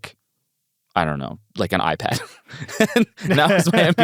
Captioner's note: laughs